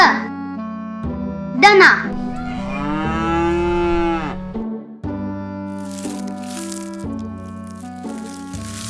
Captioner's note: cow